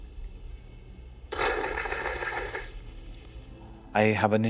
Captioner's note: slurps grotesquely